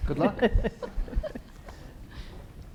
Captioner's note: chuckling